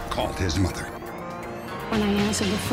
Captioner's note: siren sounding